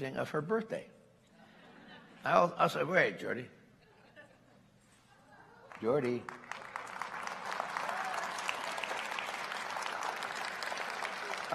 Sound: applause; laughter

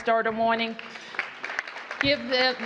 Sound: applause

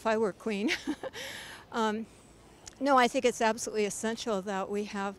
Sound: giggles

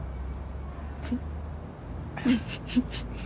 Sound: both laughing

